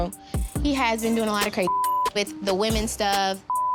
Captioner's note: beep